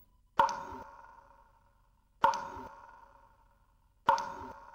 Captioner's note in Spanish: Sonido de gotas